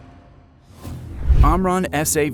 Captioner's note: graphic whooshing